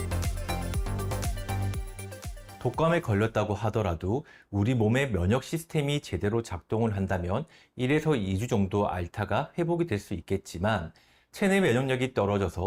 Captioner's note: voiceover